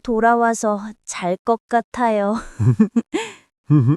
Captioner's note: laughs